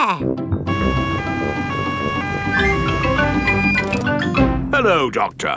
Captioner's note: siren wailing